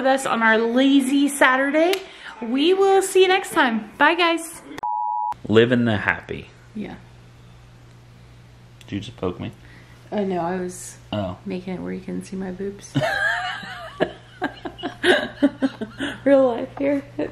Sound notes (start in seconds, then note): 4.8 beep; 12.9 laughter